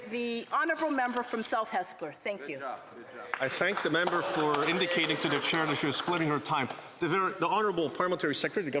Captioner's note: applause